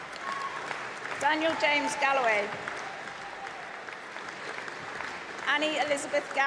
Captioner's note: applause